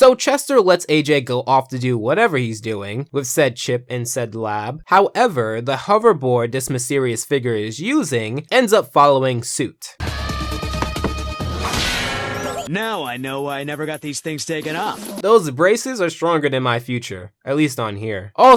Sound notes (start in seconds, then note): 10.0 dramatic music; 10.8 fists ricocheting